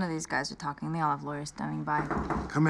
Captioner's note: knocking